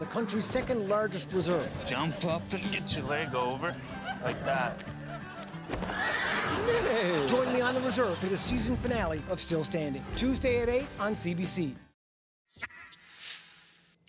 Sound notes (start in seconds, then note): 4.6 laughter; 5.6 horse whinnies; 5.7 imitates horse whinny